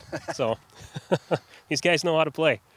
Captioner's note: laughs